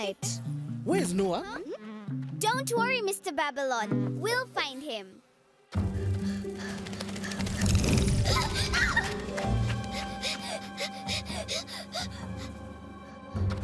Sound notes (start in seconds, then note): 6.5 panting; 6.7 squeaking; 7.8 gasping; 9.7 panting